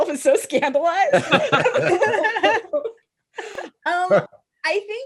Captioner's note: laughter